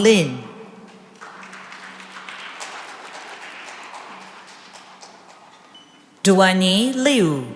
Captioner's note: applause